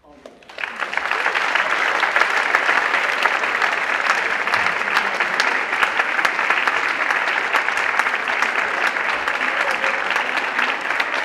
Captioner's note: applause